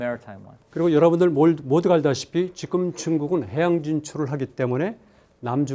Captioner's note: speaking in Korean